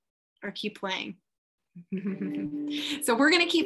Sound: chuckles

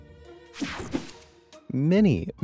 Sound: transition zapping

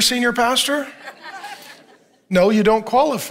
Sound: congregation laughing

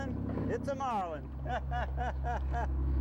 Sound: laughter

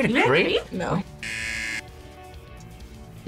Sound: buzzer

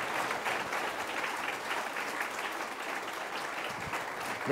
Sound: applause

